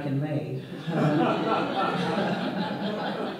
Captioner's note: audience laughter